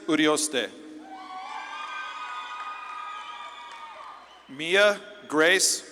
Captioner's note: audience claps and cheers